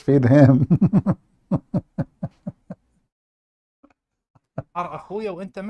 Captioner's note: Ketawa